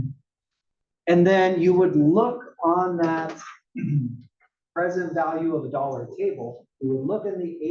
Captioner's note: cough